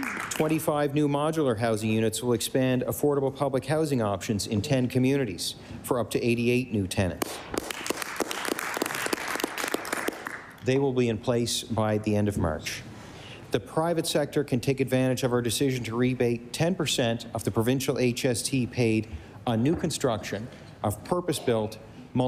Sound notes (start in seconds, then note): 0.0 applause; 11.2 applause